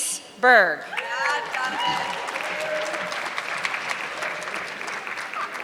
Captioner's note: audience clapping